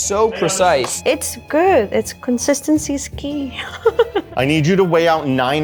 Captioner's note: laughs